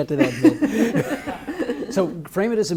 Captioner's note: audience laughs